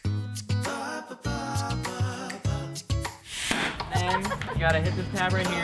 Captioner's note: man vocalizing